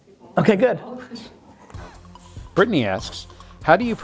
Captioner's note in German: Voice-over